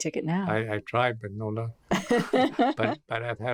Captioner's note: laughs